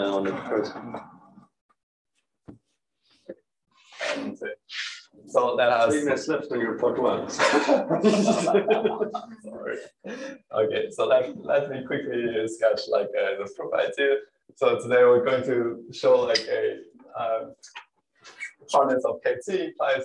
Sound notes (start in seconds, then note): 7.3 laughter